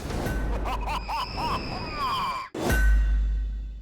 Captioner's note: evil laughter; screaming